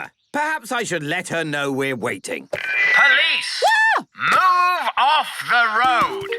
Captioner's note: none